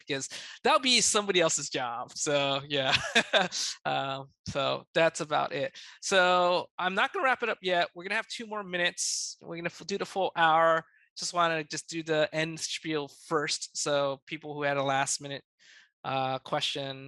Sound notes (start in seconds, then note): 2.7 laughs